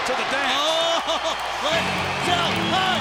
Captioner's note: laughs